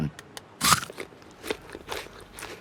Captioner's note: crunches